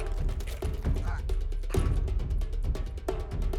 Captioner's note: grunting